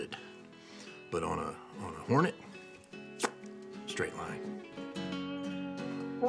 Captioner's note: exhales